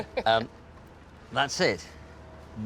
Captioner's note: laughs